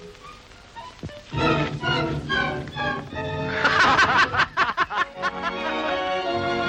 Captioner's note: dramatic music; Stony and Tucson laughing; light music